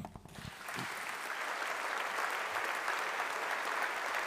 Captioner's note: audience applauding